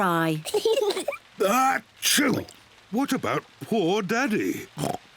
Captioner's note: kids giggle; sneezes; oinks